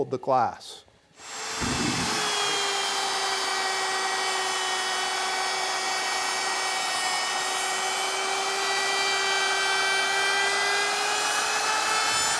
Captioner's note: power tool humming